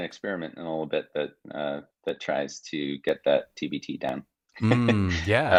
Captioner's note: chuckling